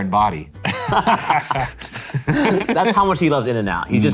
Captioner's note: all laughing